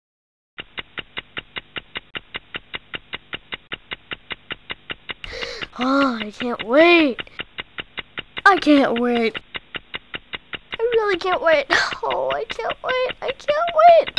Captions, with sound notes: GREAT EXPECTATIONS By Hanz and Tom Hosler (ticking clock) (ticking clock) Ah, I can't wait... (ticking clock) I can't wait... (ticking clock) I really I can't wait... (ticking clock) Oh, I can't wait, I can't wait... (ticking clock)